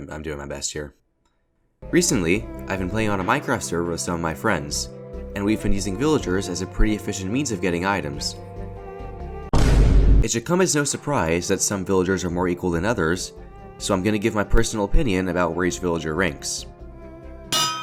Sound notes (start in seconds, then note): 9.5 vine boom sound